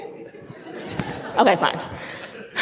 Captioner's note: audience laughing